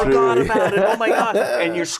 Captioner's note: laughter